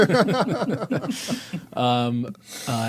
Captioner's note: laughing